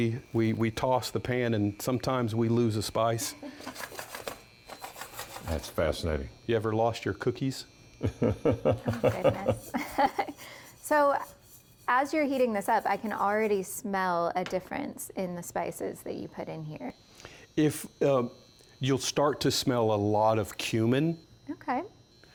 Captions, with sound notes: we toss the pan and sometimes we lose a spice. That's fascinating. You ever lost your cookies? (laughter) So as you're heating this up, I can already smell a difference in the spices that you put in here. You'll start to smell a lot of cumin. Okay.